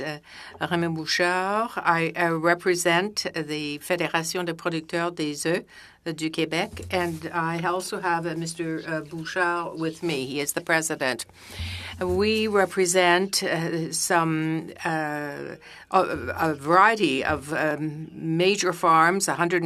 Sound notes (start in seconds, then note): 12.0 speaking French